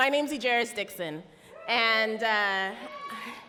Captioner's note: audience cheer